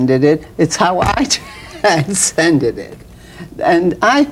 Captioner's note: laughs